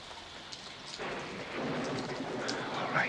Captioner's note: thunder and rain